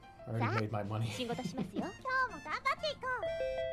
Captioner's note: giggles